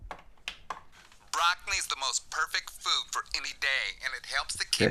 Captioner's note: commercial on radio